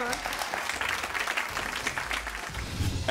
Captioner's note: audience applauding